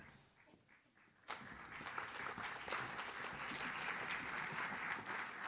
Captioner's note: audience claps